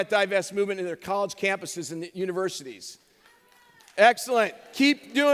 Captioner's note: cheers